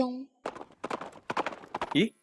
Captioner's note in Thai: เสียงควบม้า